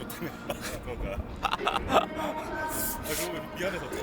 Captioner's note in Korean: 웃음